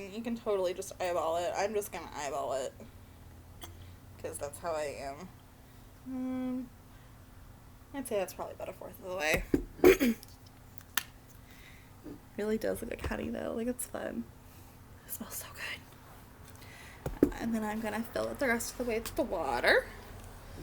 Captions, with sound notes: And you can totally just eyeball it. I'm just gonna eyeball it. Because that's how I am. I'd say that's probably about 1/4th of the way. It really does look like honey though. Like, it's fun. *whispers* It smells so good! And then I'm gonna fill it the rest of the way with the water.